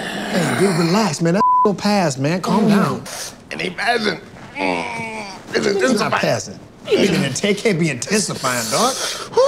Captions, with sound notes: - Dude, relax man. That (beeps) gonna pass, man. Calm down. - It ain't passing. (groans) It's intensifying. - It's not passing? It can't be intensifying, dog.